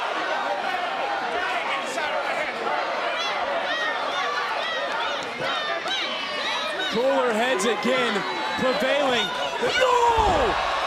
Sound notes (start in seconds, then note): 2.9 crowd chants "do it"